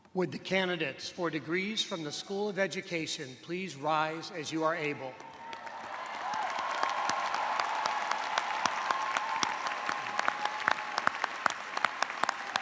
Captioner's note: cheers and applause